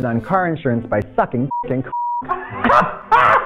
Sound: beep; everyone laughs

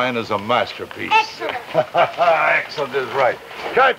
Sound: Anton laughs

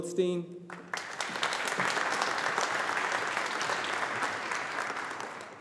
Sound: audience applauding

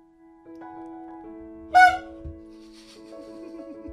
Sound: honk

